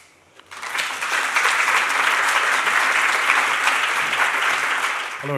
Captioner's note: audience applauding